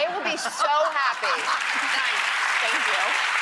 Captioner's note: audience applauding